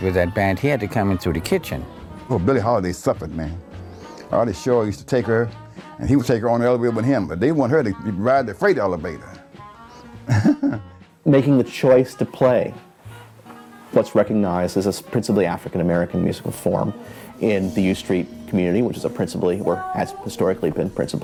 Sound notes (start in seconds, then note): 10.1 chuckles